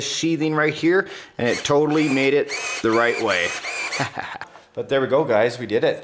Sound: laughs

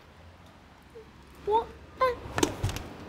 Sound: whimpers

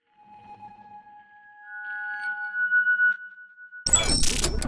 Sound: logo sting sound effects

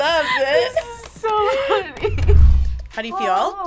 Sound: laughs

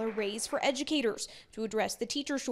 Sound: applause

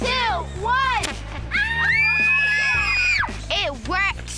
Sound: cheering

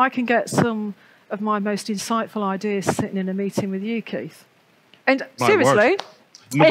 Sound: laughs

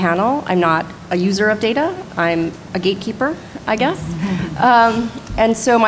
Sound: laughter

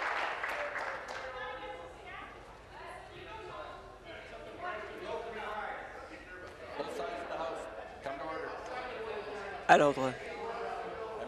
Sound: applause

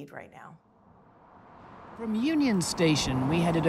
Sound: city sounds

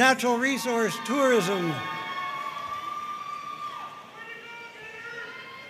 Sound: audience cheering and applauding

